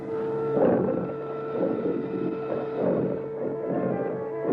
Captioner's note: growling